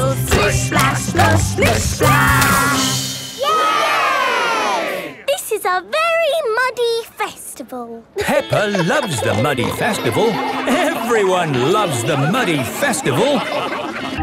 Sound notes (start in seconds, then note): 3.4 all cheering; 8.1 laughing